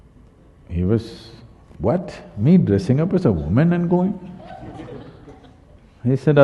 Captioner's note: laughter